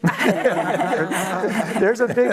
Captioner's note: laughter